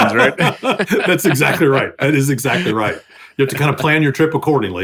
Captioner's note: laughing